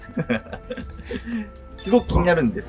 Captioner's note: laughing